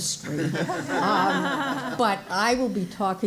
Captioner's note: audience laughing